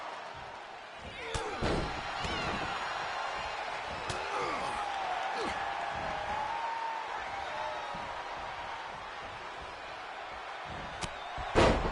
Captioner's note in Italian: urlo